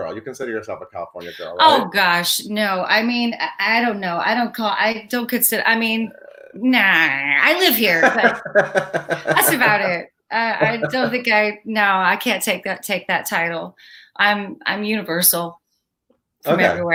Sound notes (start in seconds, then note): 5.9 groans; 6.1 laughs